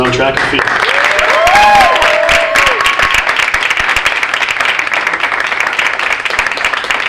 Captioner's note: audience applauding; audience cheering